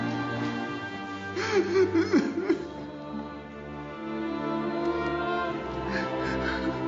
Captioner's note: sobbing